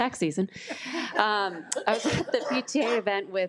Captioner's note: attendees laugh